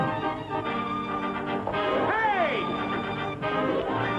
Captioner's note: shouting